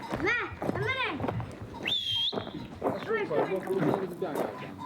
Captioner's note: boy shouts and whistles